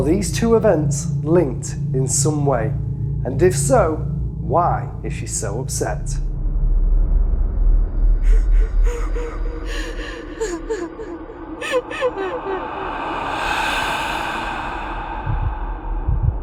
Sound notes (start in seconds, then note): 6.7 eerie music; 8.2 woman sobbing; 8.8 eerie music